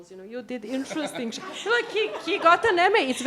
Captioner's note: laughter